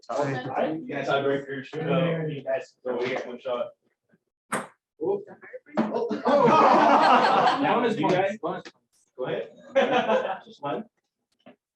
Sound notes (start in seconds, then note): 6.0 laughter